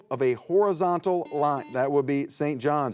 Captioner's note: buzzer beeps